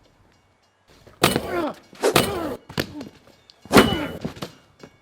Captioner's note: bell ringing; man groaning; bat clinking; body thudding